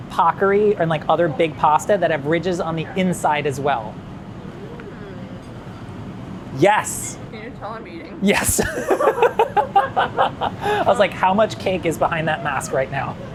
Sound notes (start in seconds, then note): 8.3 both laughing